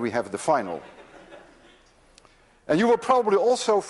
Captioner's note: class laughs